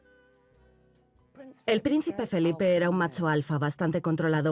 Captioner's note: voiceover